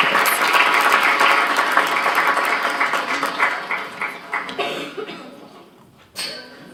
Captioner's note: applause